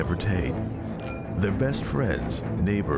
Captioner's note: glasses clinking